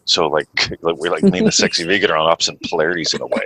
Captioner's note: laughs